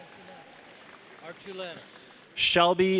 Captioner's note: audience cheering; audience applauding